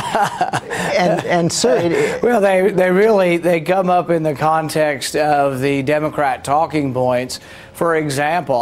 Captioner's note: laughs